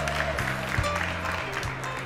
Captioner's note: crowd cheering